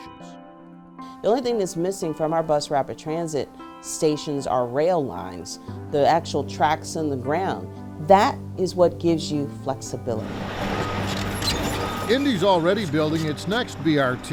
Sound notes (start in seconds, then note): 10.0 vehicle rumbles; 10.2 signal beeps